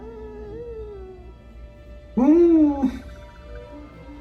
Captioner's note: baby Yoda cooing